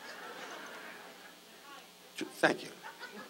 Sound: audience laughs

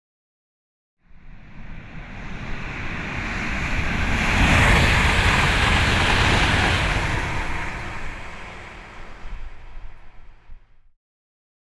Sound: train passing

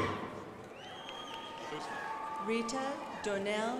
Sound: crowd applauding

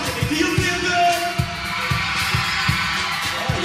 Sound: crowd screaming

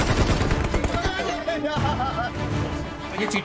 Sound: laughs

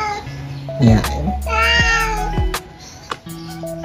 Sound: Mapa Meowing; Mapa Meowing

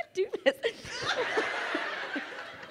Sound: crowd laughing

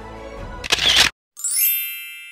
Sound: camera clicks; chime

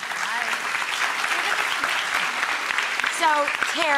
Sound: audience applause

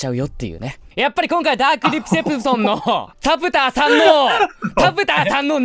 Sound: fumbles

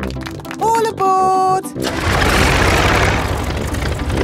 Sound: plane engine starts

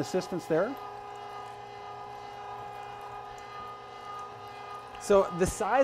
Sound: machine roaring

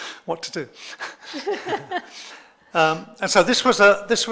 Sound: laughs

